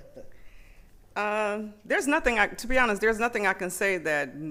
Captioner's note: laughter